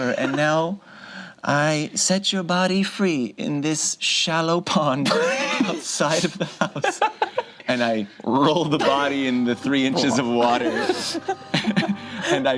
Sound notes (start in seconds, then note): 0.0 laughs; 6.0 group laughs; 9.7 group laughs